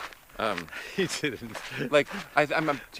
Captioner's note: laughs